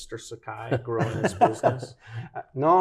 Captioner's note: light laughter